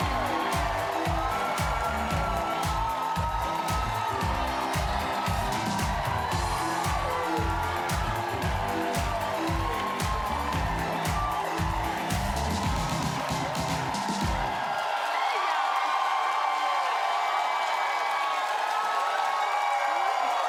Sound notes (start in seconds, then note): 5.0 cheering and applause